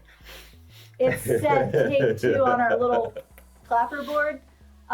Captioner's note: laughs; clicks